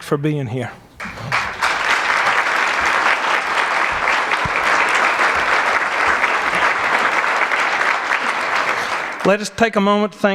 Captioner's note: applause